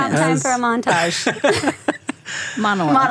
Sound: laughter

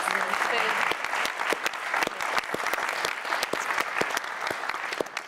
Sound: audience clapping

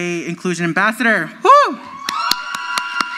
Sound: crowd screams

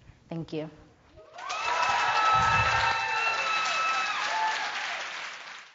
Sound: cheers and Applause

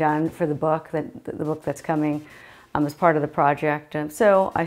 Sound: stammers

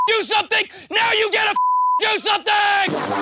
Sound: beep; beep

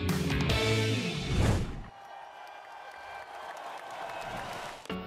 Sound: crowd cheering

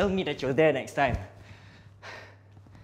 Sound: sighs

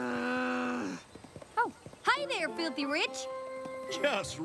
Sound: groans

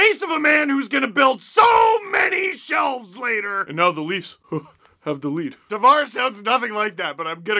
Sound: laugh

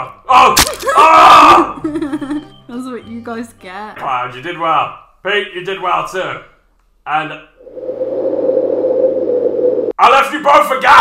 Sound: wind sound

